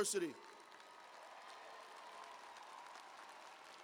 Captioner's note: cheers and applause